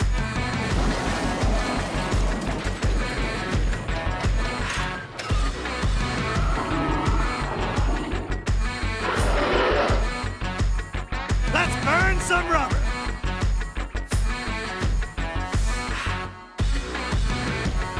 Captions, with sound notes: (car crashing) (dinosaur roaring) Let's burn some rubber! (upbeat rock music)